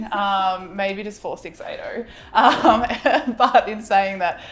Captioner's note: laughing